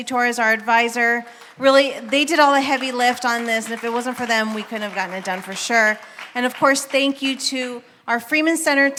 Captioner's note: applause